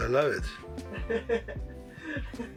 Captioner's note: laughs